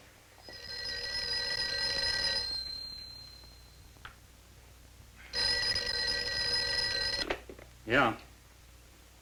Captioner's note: telephone ringing